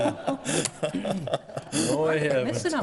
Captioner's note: laughing